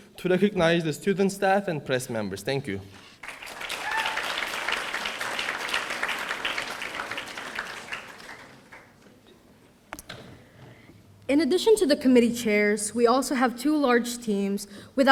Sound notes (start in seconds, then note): 3.2 audience applauding